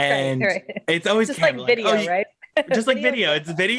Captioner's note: laughs; laughs